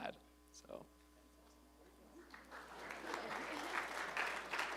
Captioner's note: applause